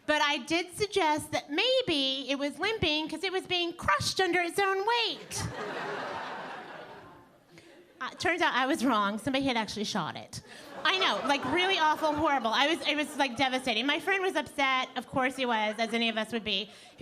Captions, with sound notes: but I did suggest that maybe it was limping because it was being crushed under his own weight. (audience laughing) Turns out I was wrong somebody had actually shot it. (audience laughing) I know, like really awful horrible I was it was like devastating. My friend was upset of course he was, as any of us would be.